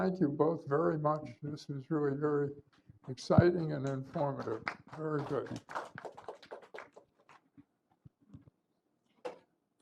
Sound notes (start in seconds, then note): 5.0 applause